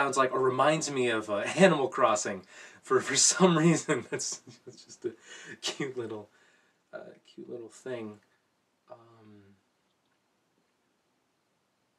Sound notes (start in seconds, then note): 3.8 laughs